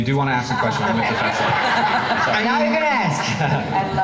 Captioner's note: laughing